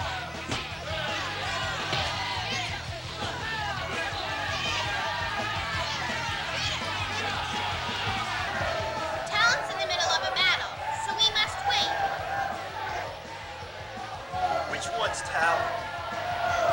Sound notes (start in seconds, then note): 0.4 kick smashing; 2.0 crowd shouting